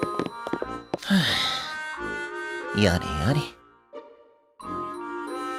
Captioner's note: sigh